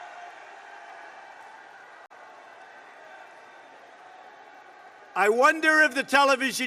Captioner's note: applause